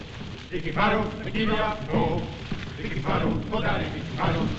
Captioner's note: chanting Continues